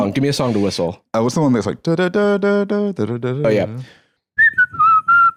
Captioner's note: humming